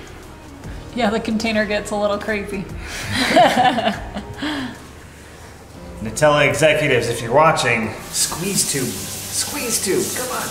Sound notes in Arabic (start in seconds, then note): 2.9 يضحك